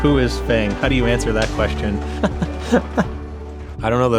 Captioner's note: laughs